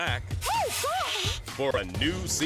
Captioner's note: indiscernible screams/squeals